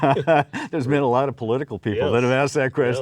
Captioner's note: laughing